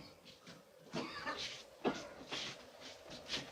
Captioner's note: coughs